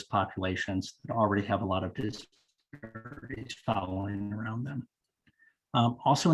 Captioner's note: audio cutting in and out